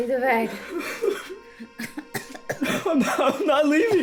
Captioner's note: Carrie coughing; Alan crying